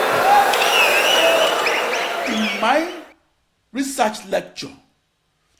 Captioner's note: wild applause and cheering for 22 seconds